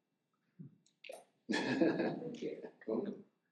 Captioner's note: chuckles